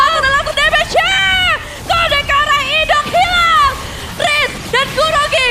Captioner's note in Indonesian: berteriak